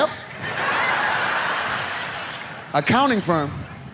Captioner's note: audience laughs